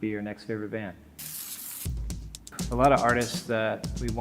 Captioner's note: paper ripping